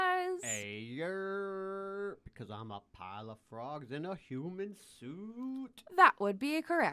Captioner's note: random mouth noises